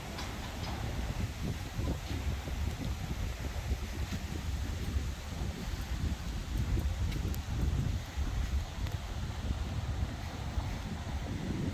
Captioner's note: gate closing